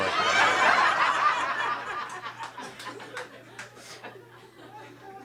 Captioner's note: audience laughing